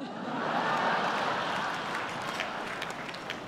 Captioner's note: laughter